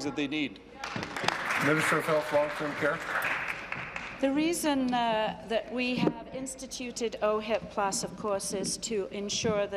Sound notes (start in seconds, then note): 3.9 applause